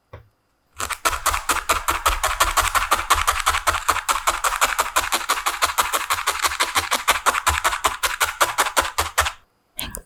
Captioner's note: pop pop